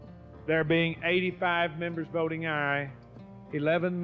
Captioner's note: voiceover